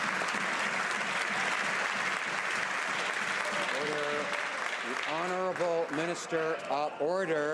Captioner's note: some Applause